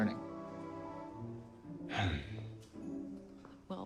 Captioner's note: sighing